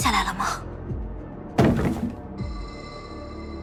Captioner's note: rolling sound